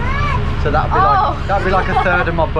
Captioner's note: laughs